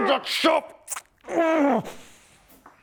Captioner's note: fooling-nobody-tough-guy-noises